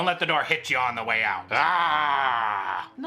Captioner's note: growls